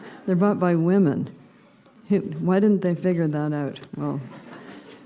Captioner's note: laughter; laughter